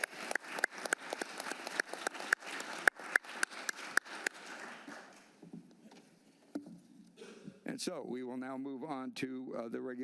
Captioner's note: applause